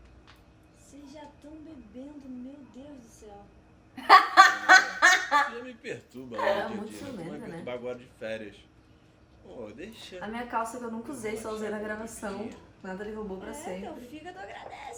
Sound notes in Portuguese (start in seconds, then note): 4.0 Risos